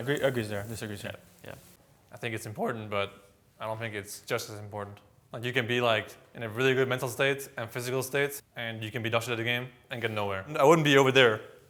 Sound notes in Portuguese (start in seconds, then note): none